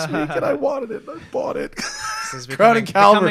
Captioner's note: laughter